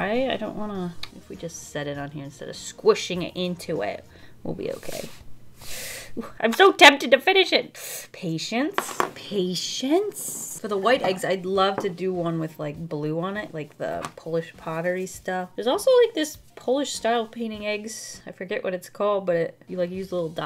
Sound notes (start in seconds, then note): none